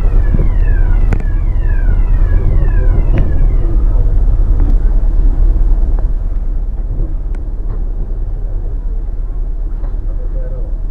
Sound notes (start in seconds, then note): 2.1 lift siren stops